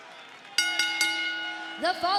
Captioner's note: bell rings